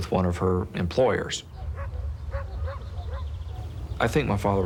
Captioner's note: dogs barking